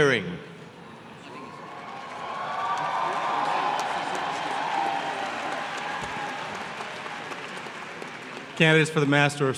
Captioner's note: applause